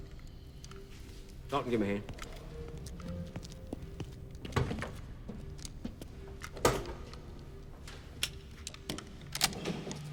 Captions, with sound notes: - Dalton give him a hand. (doors clicking)